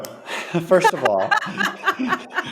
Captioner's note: laughing